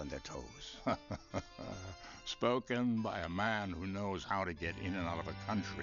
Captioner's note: laughs